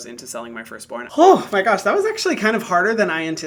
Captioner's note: sighs